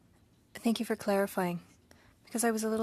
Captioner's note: speaking French